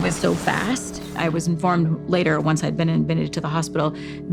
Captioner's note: crashing